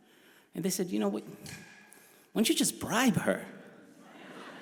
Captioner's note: crowd laughs